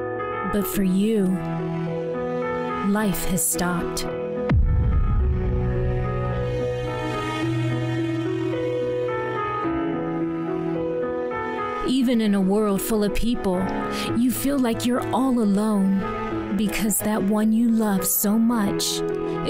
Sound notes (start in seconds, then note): 3.8 piano music; 4.4 thud; 6.0 piano music